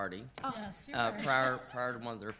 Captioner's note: chuckles